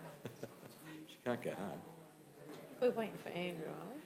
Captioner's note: laughs